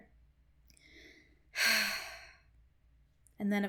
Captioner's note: sigh